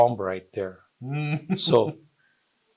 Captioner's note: chuckles